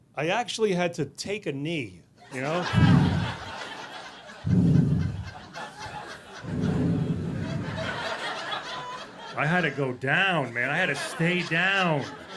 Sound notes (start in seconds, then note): 2.4 audience laughing; 4.3 heavy breathing